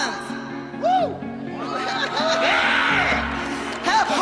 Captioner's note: cheers and applause